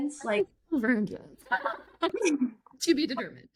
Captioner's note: laughs